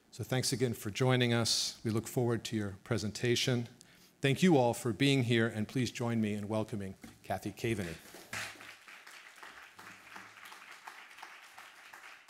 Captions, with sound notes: So thanks again for joining us, we look forward to your presentation. Thank you all for being here, and please join me in welcoming Cathy Kaveny. (audience clapping)